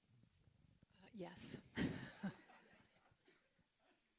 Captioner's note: laughs